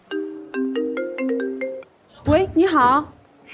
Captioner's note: unknown number calls